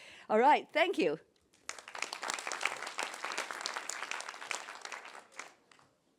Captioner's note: applause